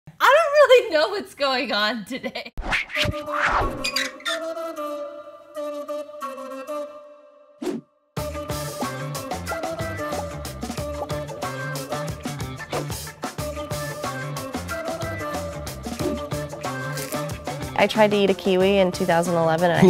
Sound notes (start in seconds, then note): 2.7 jazzy music playing; 3.8 creak